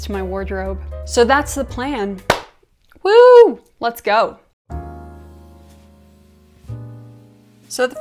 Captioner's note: clap